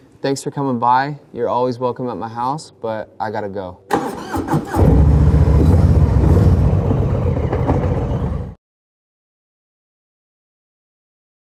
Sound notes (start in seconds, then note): 3.9 motorcycle engine revving